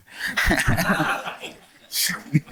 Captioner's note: laughter